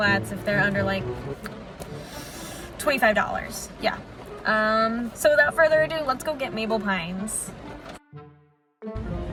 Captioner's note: sucks air in